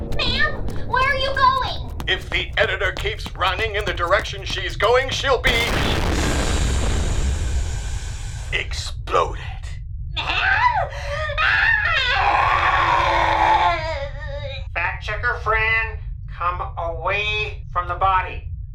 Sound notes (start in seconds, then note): 5.4 explosion